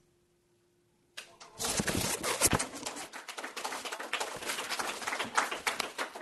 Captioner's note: applause